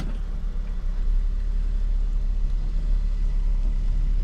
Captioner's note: door opens